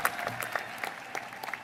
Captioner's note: applause